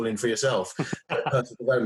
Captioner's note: laughs